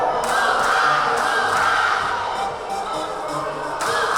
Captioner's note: yelling